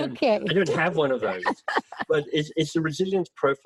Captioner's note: laughing